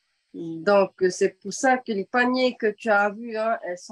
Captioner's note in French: En français